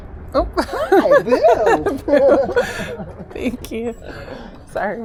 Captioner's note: laughter